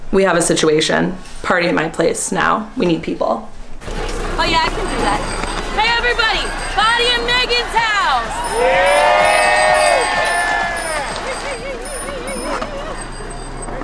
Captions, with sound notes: Kymmy? we have a situation. party at my place right now. we need people oh yeah I can do that. HEY EVERYBODY! PARTY AT MAYGEN'S HOUSE! (CHEERING)